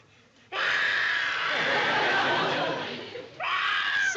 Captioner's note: making monster noises